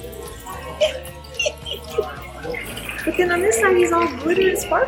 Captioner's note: giggles